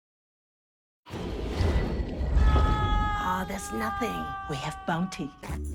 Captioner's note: cheering and Applause